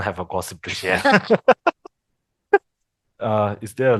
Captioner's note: laughters